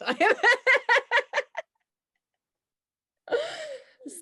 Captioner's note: both laughing